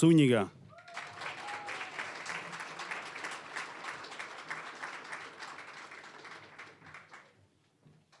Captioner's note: applause